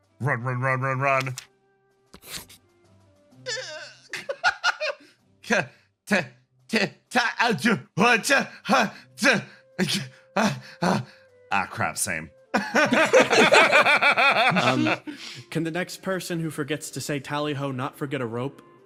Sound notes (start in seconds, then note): 3.5 laugh; 12.5 laughs